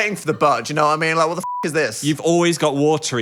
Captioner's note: beep